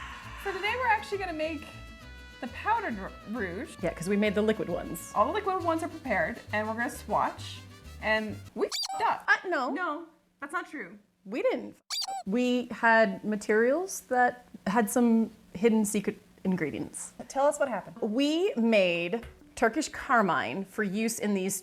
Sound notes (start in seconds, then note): 8.7 squeak; 11.9 squeak